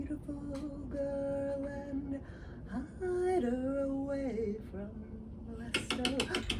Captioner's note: singing,; frantic knocking